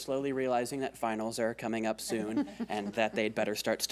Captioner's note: board members chuckle